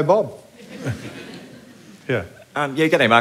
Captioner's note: laughter